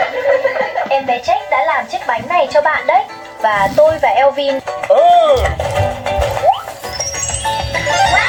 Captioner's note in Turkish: kahkaha